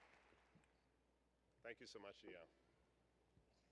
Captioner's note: applause